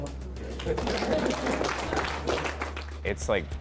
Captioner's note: applause